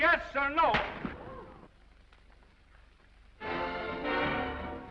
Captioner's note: hand slaps; audience gasps; orchestral music